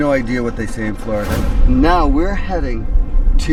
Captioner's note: scene swooshing